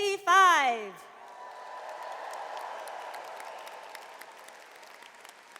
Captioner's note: audience cheers and applauds